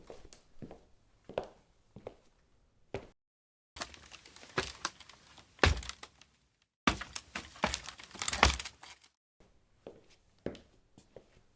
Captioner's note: sound of going up and down a ladder